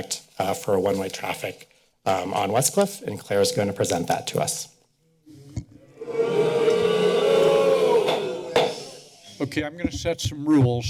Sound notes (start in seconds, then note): 5.9 audience booing; 8.5 hitting gavel